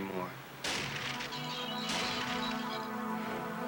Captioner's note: gunshots, glass breaking on videotape